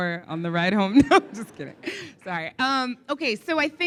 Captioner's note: laughs